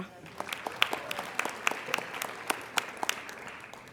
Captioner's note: applauding